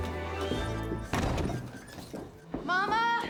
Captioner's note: door slams